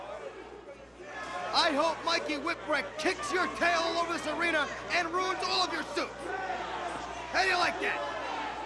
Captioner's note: crowd chatter